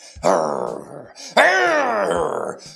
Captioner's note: growls